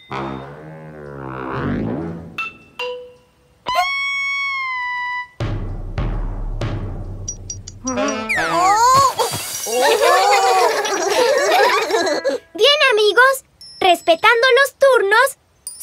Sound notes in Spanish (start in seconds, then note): 0.1 Sonido de Instrumentos; 9.7 Risas